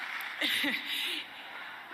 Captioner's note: laugh